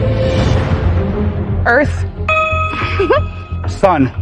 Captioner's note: chuckling